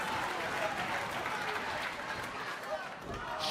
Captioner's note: cheers & applause